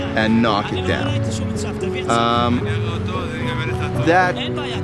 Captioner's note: speaking in Hebrew